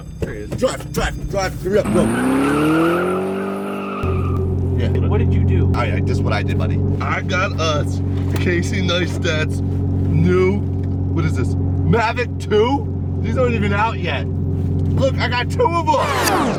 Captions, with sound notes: - Drive, drive, drive. Hurry up, go! (car revving) - What did you do? - Alright, this is what I did buddy. I've got us, Casey Neistat's new, what is this? Mavic 2!, these aren't even out yet. Look I've got two of them.